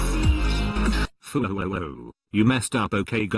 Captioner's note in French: robotique